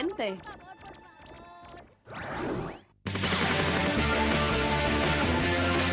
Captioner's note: clover crying